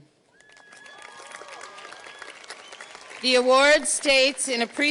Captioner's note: audience cheers and applauds